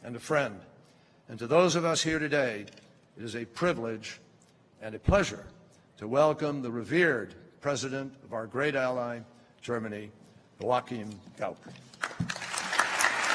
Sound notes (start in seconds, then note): 11.9 applause